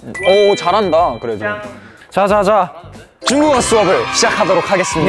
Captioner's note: surprised